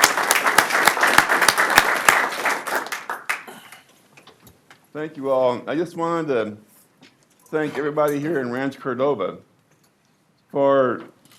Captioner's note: applause